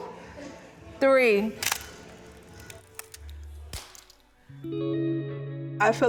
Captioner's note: shutter clicks